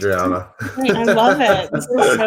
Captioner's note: laughs